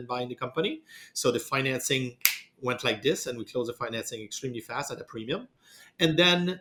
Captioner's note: snaps fingers